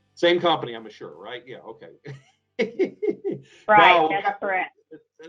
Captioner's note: laughs